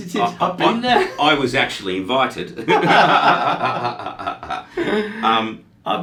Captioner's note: both laughing